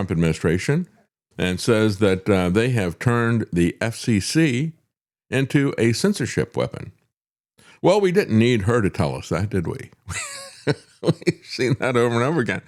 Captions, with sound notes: administration and says that they have turned the FCC into a censorship weapon. Well, we didn't need her to tell us that, did we? (Laughing) We've seen that over and over again.